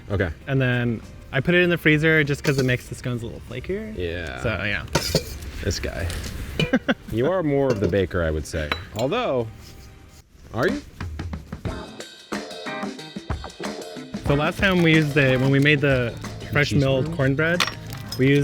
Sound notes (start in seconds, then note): 6.6 laughing; 10.6 upbeat rhythmic music